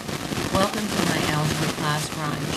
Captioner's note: voiceover